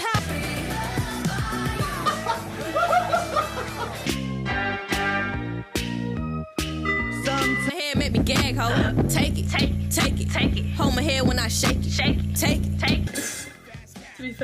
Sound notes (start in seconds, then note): 1.9 man laughing